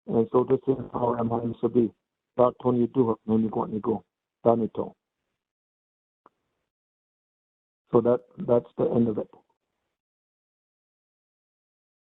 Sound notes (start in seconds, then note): 3.7 speaking in native language